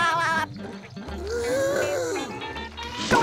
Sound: laughing; gasping

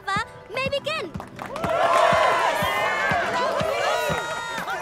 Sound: cheering

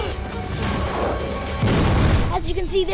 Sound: explosion

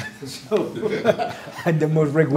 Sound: laughs

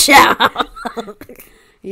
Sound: laughs

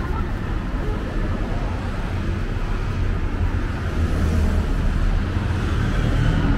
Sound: laughs

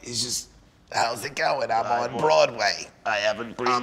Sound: raspingly

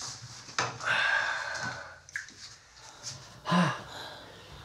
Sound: sighs

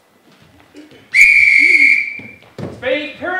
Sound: whistle

